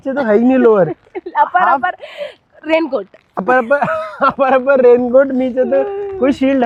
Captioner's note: laughs